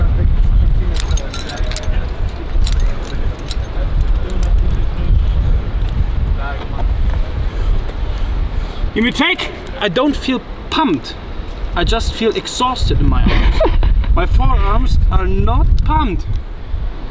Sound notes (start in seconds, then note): 0.9 clip clanging